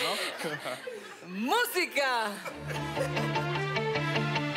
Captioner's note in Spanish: Risas